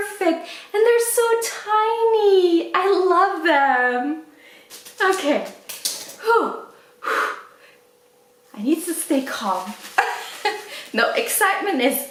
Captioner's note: laughs